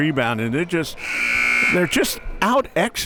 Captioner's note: buzzer ringing